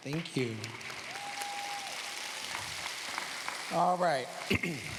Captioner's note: cheers, applause